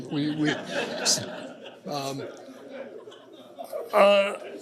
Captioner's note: laughter